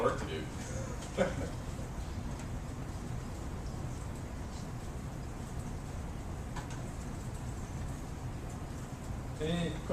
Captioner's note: laugh